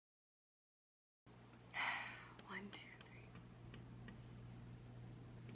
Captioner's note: sighs